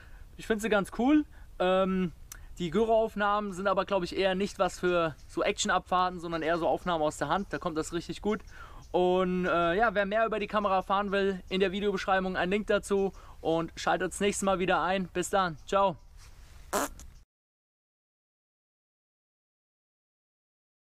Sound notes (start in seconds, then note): 16.7 fart